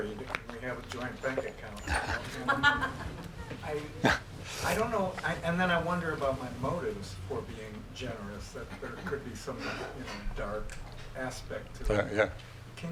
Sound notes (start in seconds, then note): 1.3 laughing